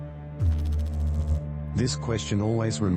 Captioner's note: electrical noise